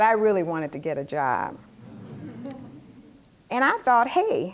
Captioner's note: laughter